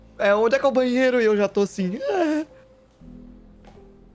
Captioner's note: sound of despair